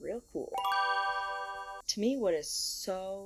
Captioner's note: bell chimes